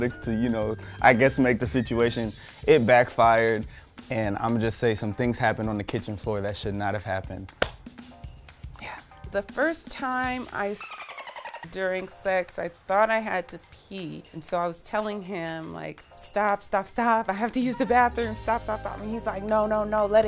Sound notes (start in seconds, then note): 10.7 dolphin sound